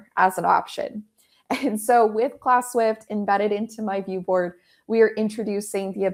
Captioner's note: chuckles